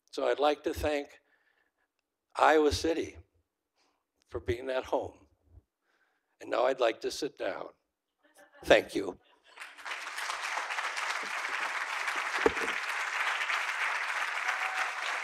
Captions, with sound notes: So I'd like to thank Iowa City for being at home. And now I'd like to sit down. Thank you. (audience applauding)